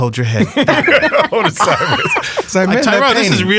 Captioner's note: all laughing